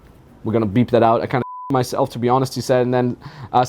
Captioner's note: beep